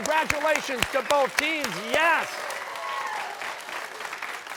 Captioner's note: cheering